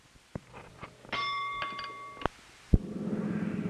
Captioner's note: bell Sound